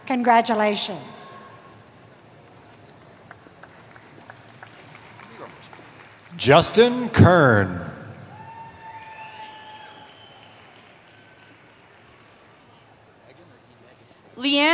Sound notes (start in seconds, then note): 2.0 applause; 8.1 cheering